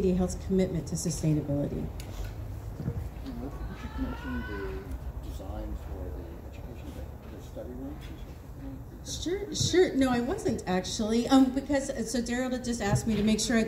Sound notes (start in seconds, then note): 3.8 quietly